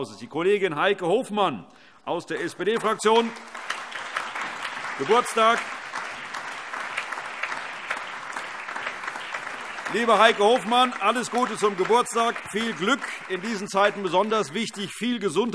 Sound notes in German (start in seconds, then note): 6.2 Allgemeiner Beifall